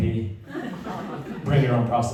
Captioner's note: laughter